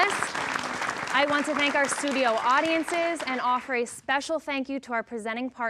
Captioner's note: applause